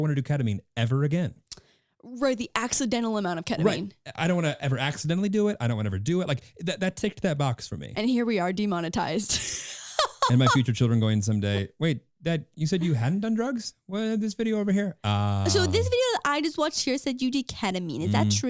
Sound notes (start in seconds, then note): 9.4 laughing